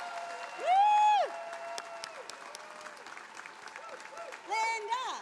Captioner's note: attendees applauding